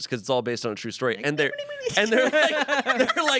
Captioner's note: everyone laughs